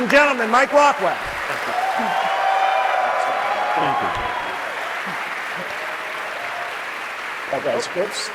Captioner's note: applause